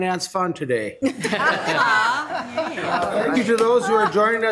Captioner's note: people laughing